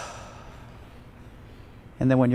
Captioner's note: exhales